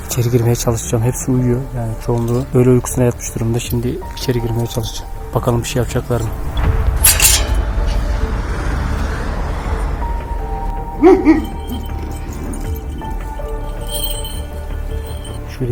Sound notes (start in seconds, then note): 7.0 iron door opening sound; 11.0 barking sound and music; 11.6 suspense music